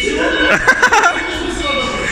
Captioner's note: laughing